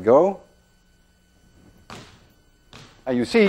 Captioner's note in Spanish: rebote de pelotas